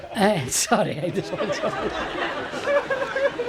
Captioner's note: laughter